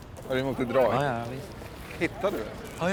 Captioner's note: none